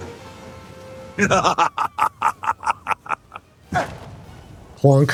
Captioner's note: laughter